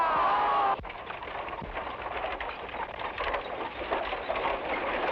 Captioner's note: Heisler shouts; carriage wheels rumble